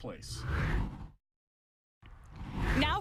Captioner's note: air whooshes